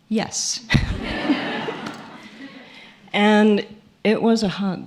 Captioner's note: laughter